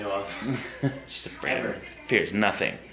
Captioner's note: laughs lightly